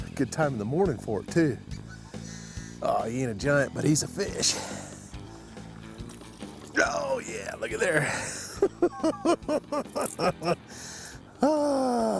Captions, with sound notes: Good time of the morning for it, too. Ahh.. He ain't a giant, but he's a fish. Oh yeah, lookee there! [snickering]